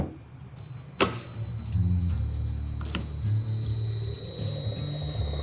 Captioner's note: hoist motor clicks and whirs; upbeat music continues